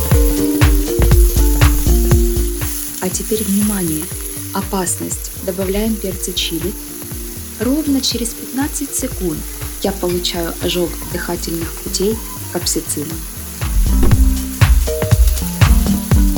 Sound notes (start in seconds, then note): 12.0 cough, cough!